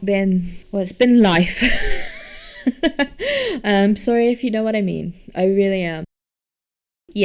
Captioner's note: laughs